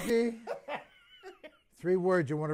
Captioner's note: laughter